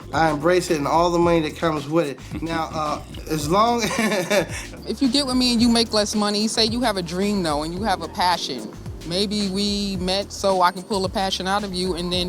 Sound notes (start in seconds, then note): 2.2 laughing